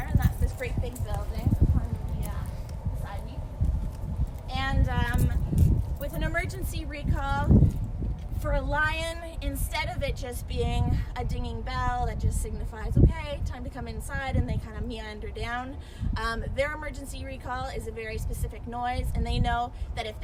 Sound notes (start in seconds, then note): none